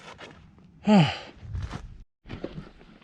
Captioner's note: sigh